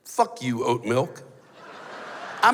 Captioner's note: laughter